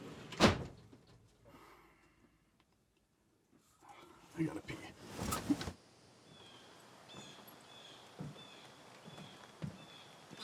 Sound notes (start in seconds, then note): 0.3 door closes; 6.5 birds chirping